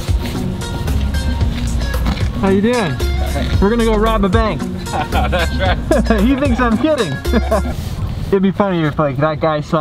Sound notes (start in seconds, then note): 0.0 upbeat music; 4.6 passerby laughs